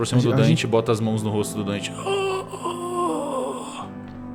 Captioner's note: existed moans